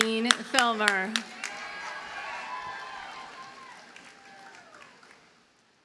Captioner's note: audience cheers and applauds